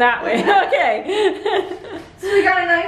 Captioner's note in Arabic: الكل يضحك